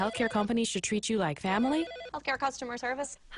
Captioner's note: phone rings